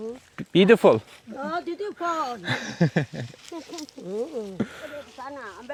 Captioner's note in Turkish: kahkaha